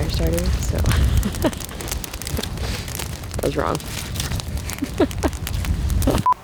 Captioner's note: laughs